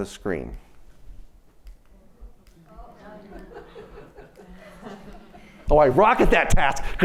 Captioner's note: laughter